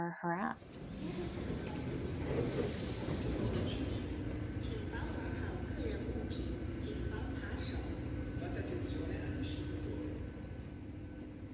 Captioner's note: Sounds of the Paris Metro